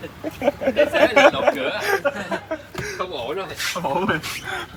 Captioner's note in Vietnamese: tiếng cười